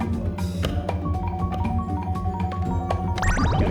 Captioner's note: slot Machine Jingles